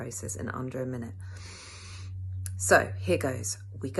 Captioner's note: deep inhale of intense preparation